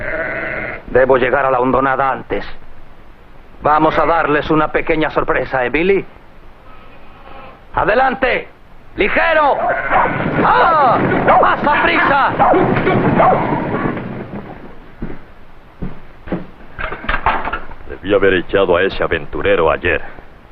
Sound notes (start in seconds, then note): 7.5 shouting; 11.6 man calling to sheep